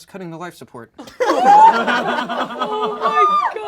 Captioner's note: all laugh